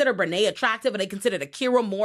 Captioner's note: none